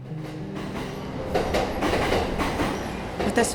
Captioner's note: train